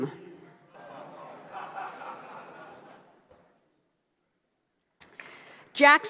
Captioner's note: laughter